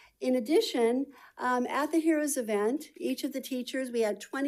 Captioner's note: none